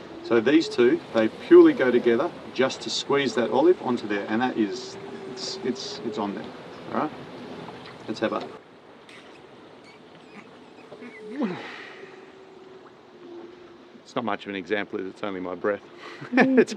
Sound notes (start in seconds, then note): 9.8 blowing